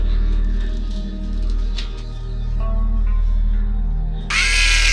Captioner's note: screaming